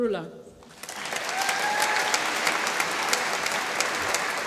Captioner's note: applause